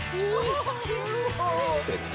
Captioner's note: excited laughter